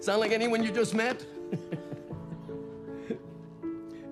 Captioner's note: laughs